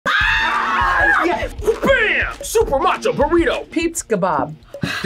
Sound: both scream

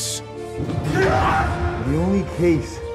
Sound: screams

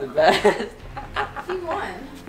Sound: laughs

